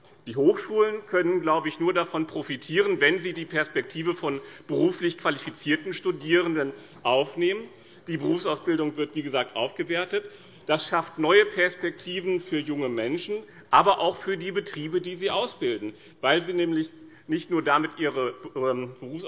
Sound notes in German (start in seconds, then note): none